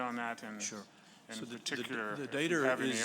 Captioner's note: voiceover